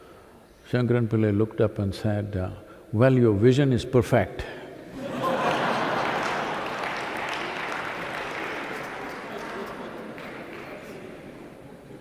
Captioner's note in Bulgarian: смях/аплодисменти